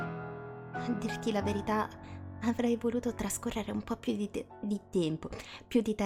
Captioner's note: messing the accent of time in Italian